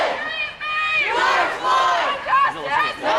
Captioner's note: crowd